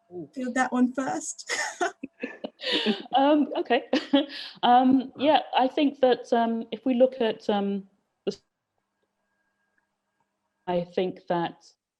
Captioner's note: laughter